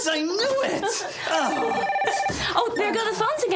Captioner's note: phone ringing